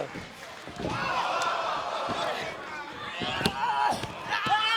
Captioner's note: crowd exclaiming